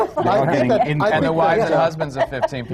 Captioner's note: laughter